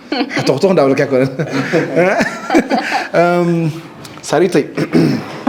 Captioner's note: laughs